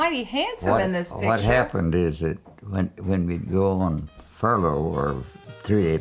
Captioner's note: laughs